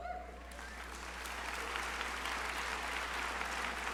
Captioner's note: crowd applauding